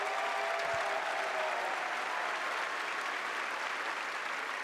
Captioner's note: cheers and applause